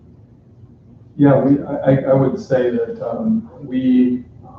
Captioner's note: offscreen Voice